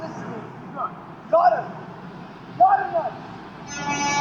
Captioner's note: noisy city; bus horn honking